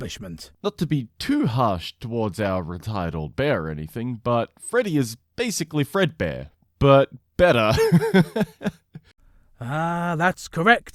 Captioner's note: chuckles